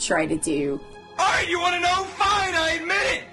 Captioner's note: JoJo fan yelling